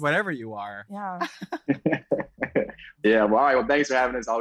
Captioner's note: laugh